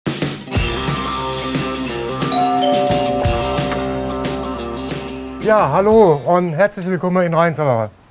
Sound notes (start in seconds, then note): 2.3 doorbell; 3.5 fast rock music